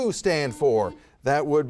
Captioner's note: buzzer buzzes